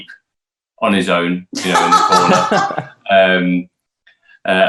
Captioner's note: Emmy laughs